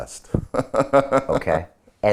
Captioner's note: laughing